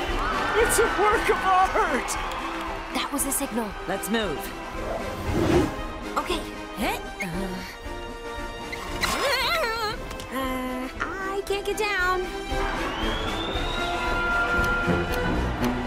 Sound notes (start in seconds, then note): 8.1 whimpering